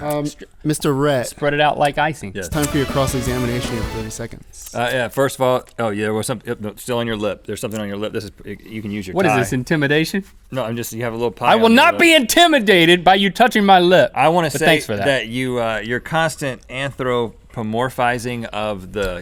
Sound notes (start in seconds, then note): 5.5 stammering